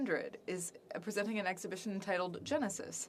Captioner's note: speaking French